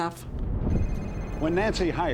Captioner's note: phone ringing